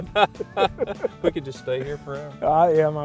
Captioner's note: laughter